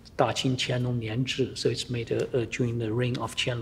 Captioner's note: speaking foreign language